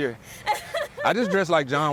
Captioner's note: laughs